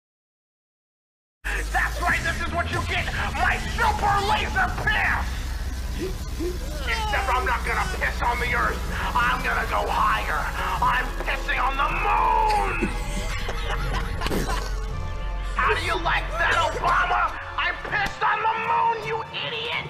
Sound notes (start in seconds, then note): 12.9 laugh track